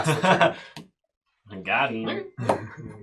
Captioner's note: laughs